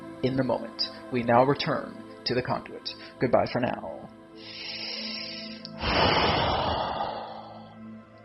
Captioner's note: deep breathing